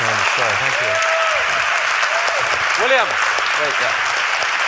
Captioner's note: applause